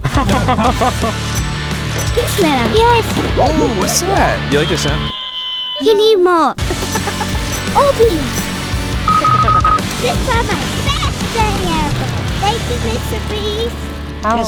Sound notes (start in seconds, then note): 0.0 laughs; 0.0 upbeat music; 5.3 toy screaming; 9.0 scanner beeping